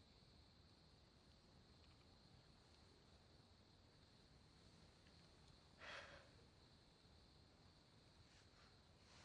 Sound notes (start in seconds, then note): 5.8 ellie sighs